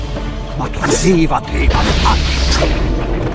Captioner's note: vizier chanting a spell